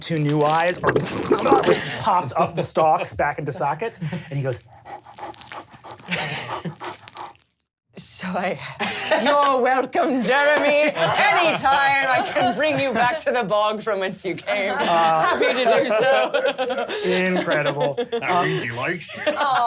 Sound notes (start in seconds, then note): 4.6 panting